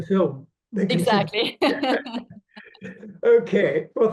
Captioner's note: laughs